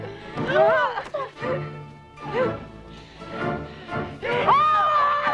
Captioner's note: Hundra grunts; Tracima gasps; Hundra yells